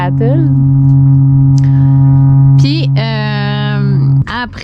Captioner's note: sound of the shroud of fog from the freighter